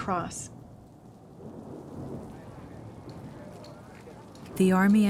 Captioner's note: thunder rumbling